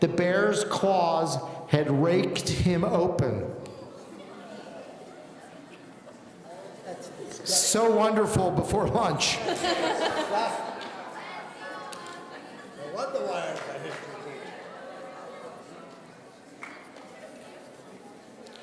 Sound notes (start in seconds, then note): 9.4 laughing; 13.7 muttering